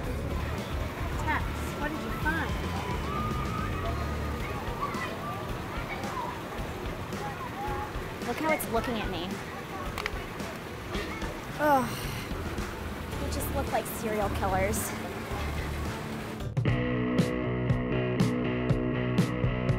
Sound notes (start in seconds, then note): 2.2 upbeat rock music; 11.5 groans; 16.5 mellow rock music